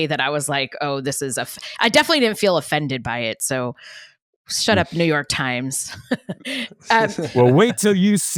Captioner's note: laughs